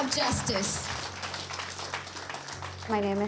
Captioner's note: applause